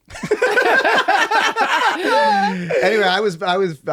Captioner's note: laughter